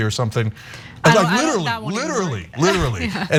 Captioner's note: laugh